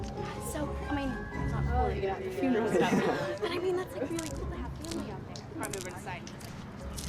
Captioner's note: chattering